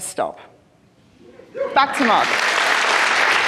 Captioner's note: crowd applauding